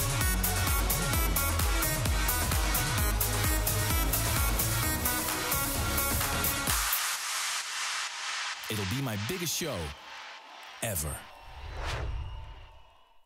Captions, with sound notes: It'll be my biggest show ever. (whoosh)